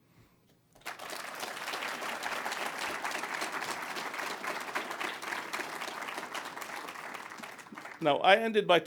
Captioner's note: applause